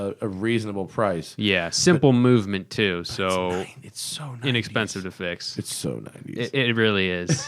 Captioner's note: whispers